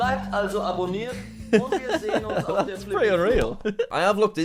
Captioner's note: laughs